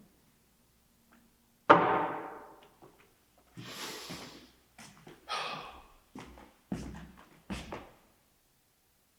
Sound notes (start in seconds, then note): 1.7 wood thuds; 5.2 Jacob exhales; 5.2 Jacob inhales